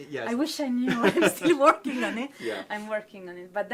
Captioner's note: laughs